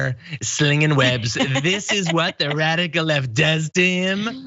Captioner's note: laugh